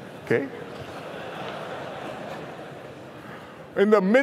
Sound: laughter

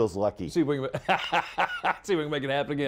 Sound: laughter

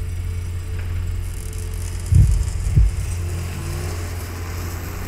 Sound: car pulls off

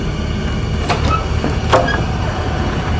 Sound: door opens

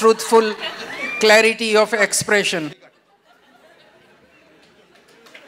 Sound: applause

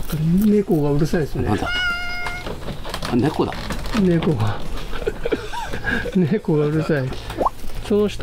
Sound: the cat is making noise

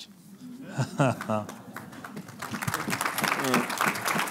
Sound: applauding

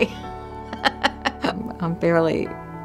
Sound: laughs

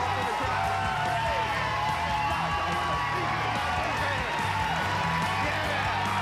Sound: cheers and applause

